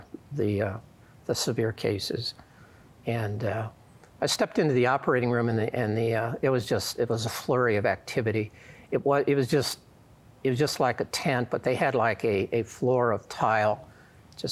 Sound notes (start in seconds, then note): none